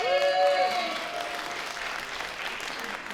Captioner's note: applause